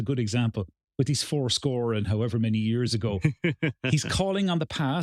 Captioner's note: laugh